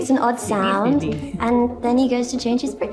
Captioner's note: chuckling